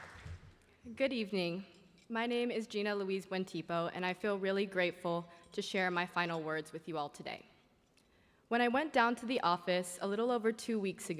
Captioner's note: applause